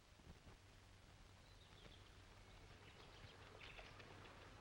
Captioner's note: birds chirping